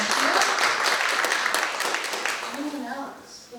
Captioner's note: applause